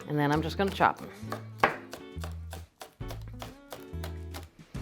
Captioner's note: knife chopping